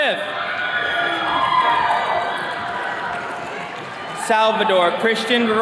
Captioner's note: attendees cheering